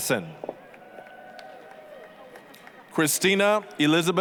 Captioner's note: applause, cheering